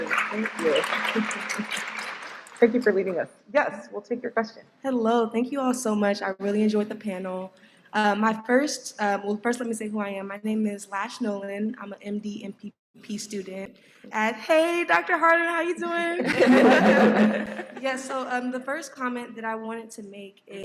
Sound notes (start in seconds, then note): 16.2 laughter